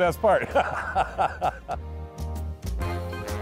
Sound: laughing

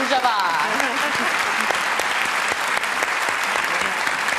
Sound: applause

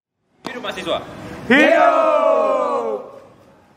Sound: excitement screamed by students

